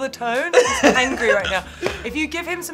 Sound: Tan laughing

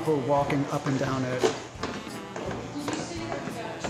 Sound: footsteps

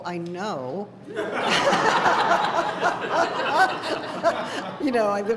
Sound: laughter

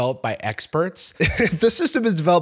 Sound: chuckles

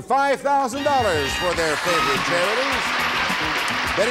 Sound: applause

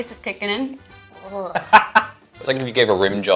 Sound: laughs

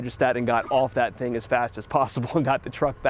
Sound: chuckles

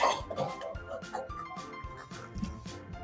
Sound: head smack

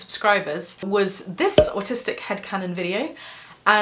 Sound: pop

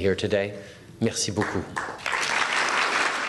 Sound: applause

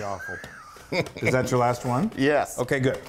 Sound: laugh

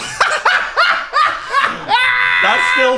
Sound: laughing

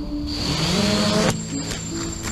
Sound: motors spinning

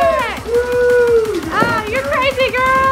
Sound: cheers

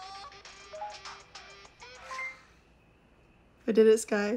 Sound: phone beeps

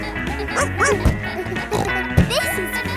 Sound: snorts; barks

